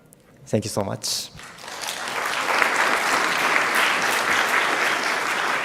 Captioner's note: audience applauding